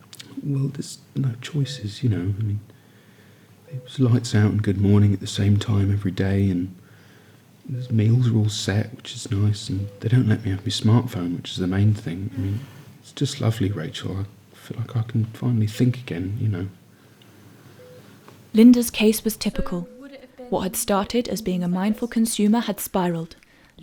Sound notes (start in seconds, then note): 18.5 voiceover